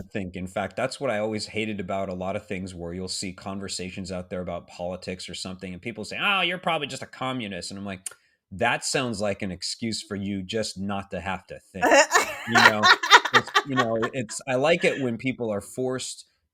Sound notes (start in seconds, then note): 11.8 laughing